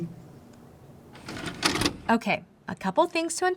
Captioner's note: videotape pauses